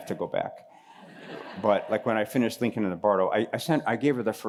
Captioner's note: laughter